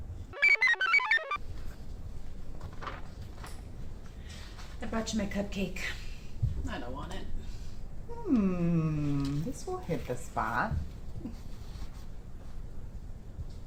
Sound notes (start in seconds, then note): 0.3 computer chirps; 2.6 page rustles